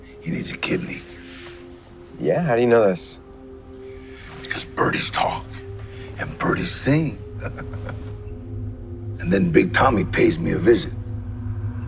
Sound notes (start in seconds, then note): 7.3 laughter